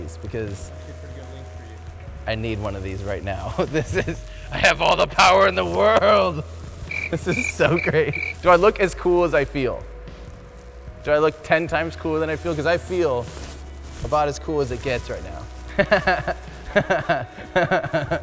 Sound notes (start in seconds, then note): 3.7 chuckles; 15.7 laughing